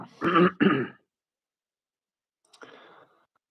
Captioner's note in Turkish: boğazını temizler